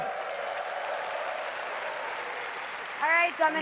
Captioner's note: applause